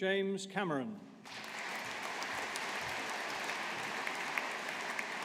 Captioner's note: audience applauding